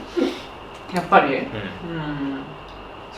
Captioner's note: laughs